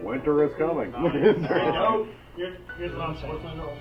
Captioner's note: laughs